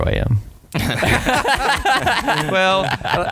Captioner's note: laughing